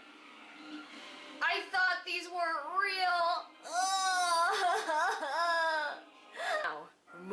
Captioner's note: cries